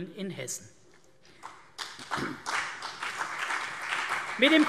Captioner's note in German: Beifall CDU und BÜNDNIS 90/DIE GRÜNEN